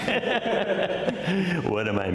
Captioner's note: laughter